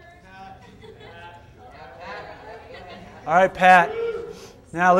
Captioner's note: all chattering